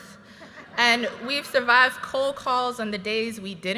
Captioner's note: graduates laughing